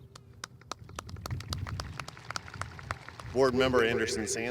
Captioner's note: audience applauding